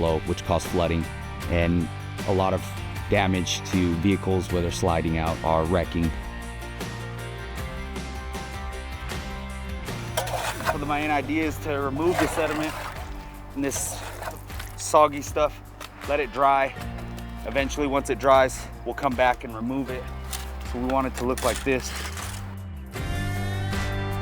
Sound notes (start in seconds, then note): 14.5 shovel scraping concrete; 22.6 shovel scraping concrete